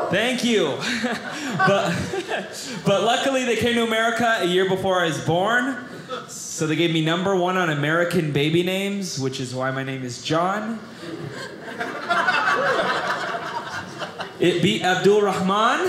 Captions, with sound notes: Thank you. But luckily, they came to America a year before I was born, so they gave me number one on American Baby names, which is why my name is John. (audience laughing) It beat Abdul Rahman.